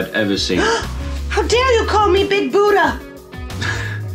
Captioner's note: gasps!